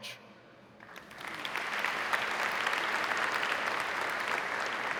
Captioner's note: audience applauding